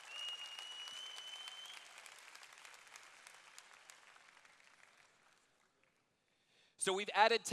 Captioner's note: cheers